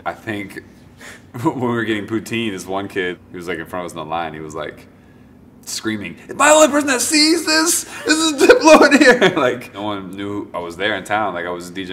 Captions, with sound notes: I think when we were getting poutine, one kid who was in front of us in line he was like screaming, ‘am I the only person who sees this? This is Diplo in here!’ (laughs) No one knew I was there in town like I was DJing in Wolfville